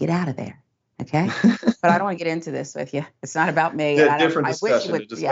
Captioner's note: laugh